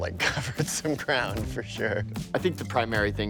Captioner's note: laughing